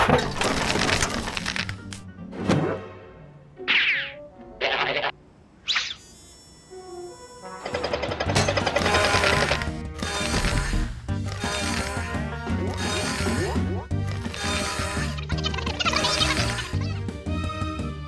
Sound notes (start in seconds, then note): 15.1 high-pitched babble